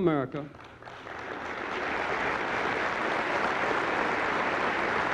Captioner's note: applause